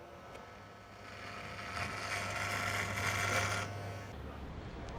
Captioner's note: shaver whirrs